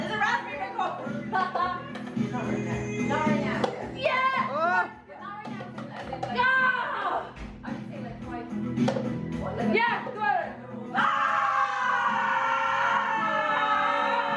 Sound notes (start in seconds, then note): 9.8 shouting altogether